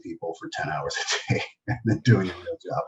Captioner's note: laughs